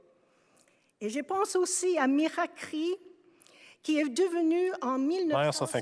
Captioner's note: speaking French